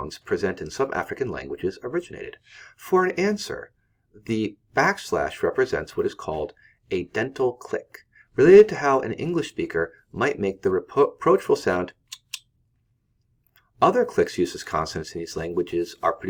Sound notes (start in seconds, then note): 12.0 clicks